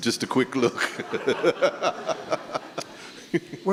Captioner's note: laugh